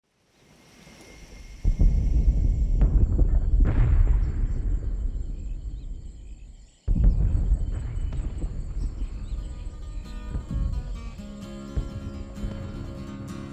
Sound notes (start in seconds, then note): 1.9 bombs exploding; 9.4 acoustic guitar music